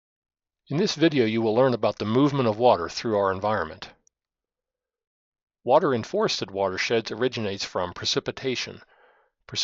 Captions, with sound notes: - [Voiceover] In this video you will learn about the movement of water through our environment. Water in forested watersheds originates from precipitation.